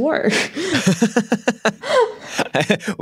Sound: laughter

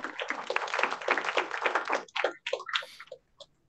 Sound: audience clapping

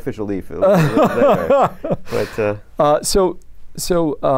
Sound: laughter

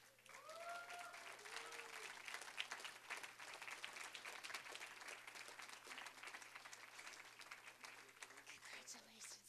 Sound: applause, cheering

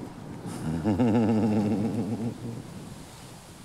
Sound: chuckles

